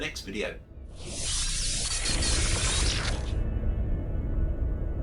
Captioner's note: electronic sounds